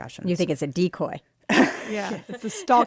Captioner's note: laughter